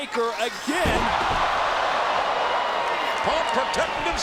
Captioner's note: audience groans; bodies thud